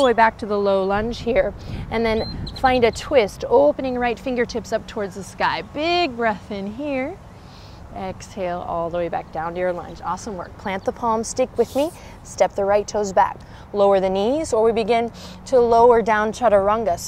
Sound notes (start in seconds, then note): 7.4 takes deep breath